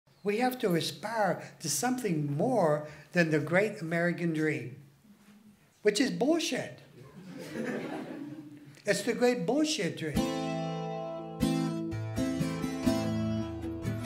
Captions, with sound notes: - We have to aspire to something more than the great American dream which is bullshit. (laughing) It's the great bullshit dream. (lively guitar music)